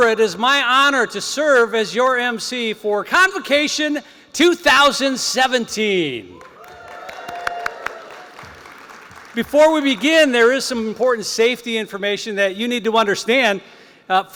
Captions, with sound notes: It is my honor to serve as your emcee for Convocation 2017. [CHEERING] Before we begin, there is some important safety information that you need to understand.